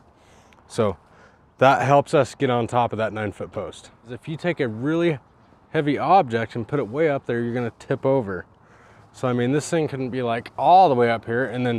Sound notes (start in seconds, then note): none